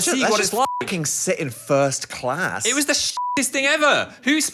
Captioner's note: beep; beep